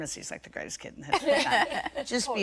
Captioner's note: laughter